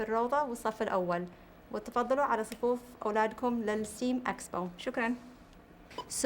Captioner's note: speaking Arabic